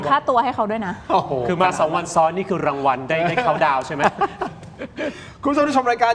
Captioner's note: laughs